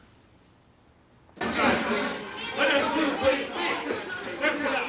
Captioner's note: clamoring